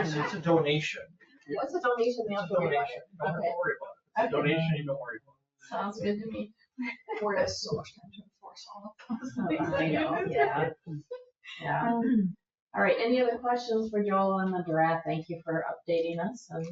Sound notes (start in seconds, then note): 1.4 people chatter; 7.3 speaks distantly